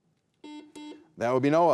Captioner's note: buzzer buzzing